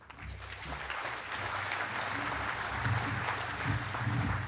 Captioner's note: crowd clapping